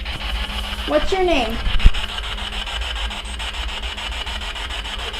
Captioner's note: static buzzing